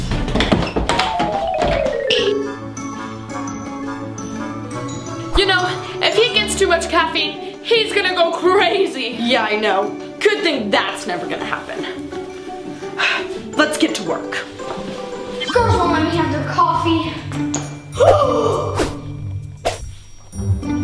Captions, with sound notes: (running into door) - You know, if he gets too much caffeine, he's going to go crazy. - Yeah, I know. Good thing that's never going to happen. (sigh) Let's get to work. - The girls won't let me have their coffee. (gasping)